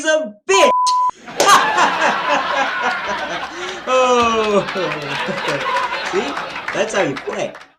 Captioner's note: laughing